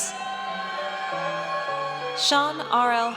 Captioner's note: audience cheers